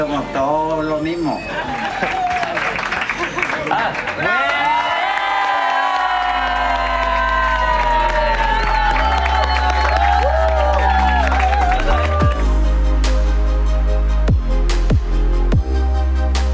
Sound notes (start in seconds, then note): 2.2 applause; 4.4 cheering & applause